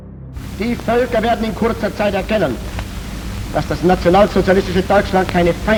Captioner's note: speaking foreign language